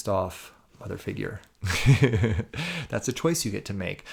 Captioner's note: chuckles